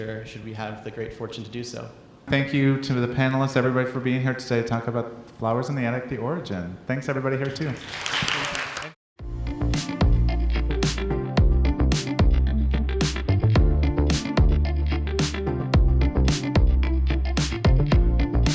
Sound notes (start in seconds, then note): 7.6 audience applauding; 9.3 upbeat music